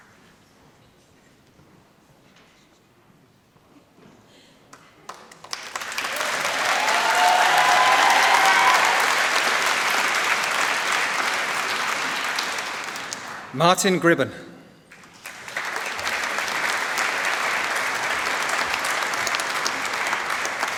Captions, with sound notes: (Cheers) Martin Gribben. (Applause)